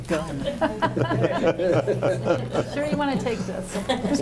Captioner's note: group laughing